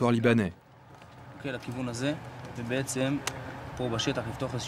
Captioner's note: Hebrew spoken audio